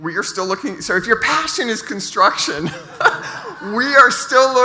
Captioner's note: laughs